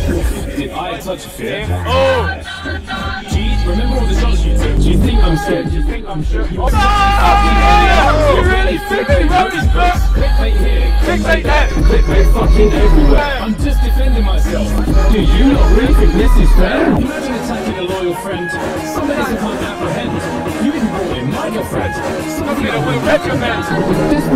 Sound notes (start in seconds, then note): 6.6 loud shouting